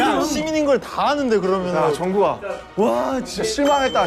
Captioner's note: Warga desa menangis